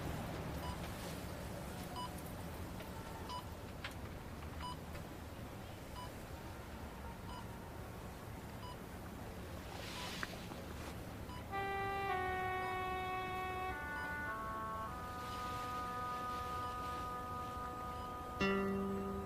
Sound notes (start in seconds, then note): 2.1 monitor beeping; 13.9 soft music